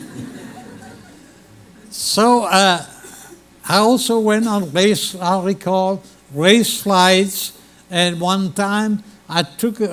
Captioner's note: laughter